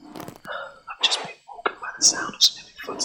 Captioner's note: sighs